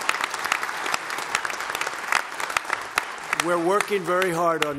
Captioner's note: applause